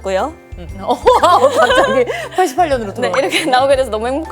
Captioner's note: haha